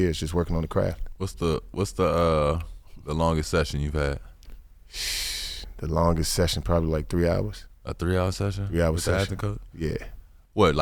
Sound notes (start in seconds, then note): 4.9 blows air